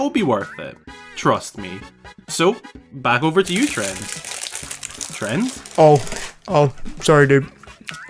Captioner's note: come back munching on something